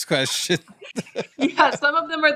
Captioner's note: laughs